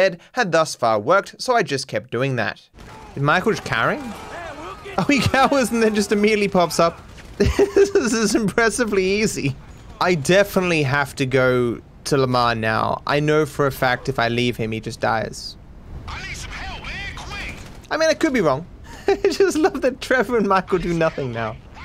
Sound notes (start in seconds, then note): 7.3 laughs